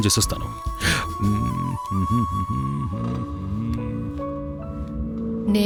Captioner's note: humming